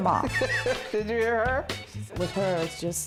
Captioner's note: laughs